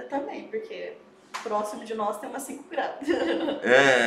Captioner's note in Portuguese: risos